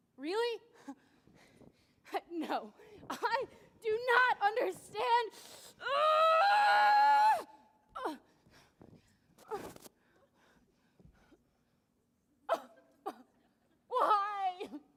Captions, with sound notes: - Really? No. I do not understand. (screaming loudly) Why?